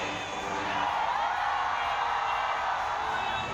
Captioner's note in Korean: 환호성